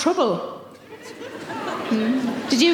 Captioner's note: audience laughing